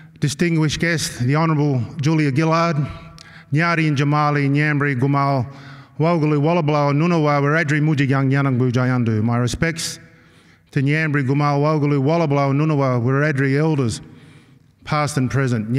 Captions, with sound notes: distinguished guests, the honorable Julia Gillard-- [NON-ENGLISH SPEECH] Past and present.